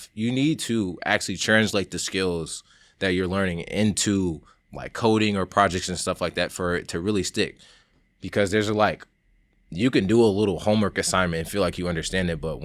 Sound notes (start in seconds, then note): none